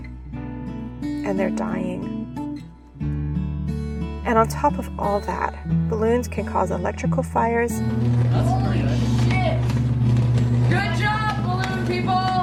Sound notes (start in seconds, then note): 7.8 buzzing